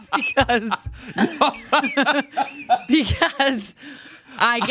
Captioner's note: laughs; everyone laughs